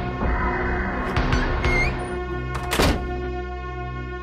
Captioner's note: door closes